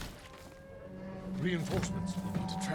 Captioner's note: alarm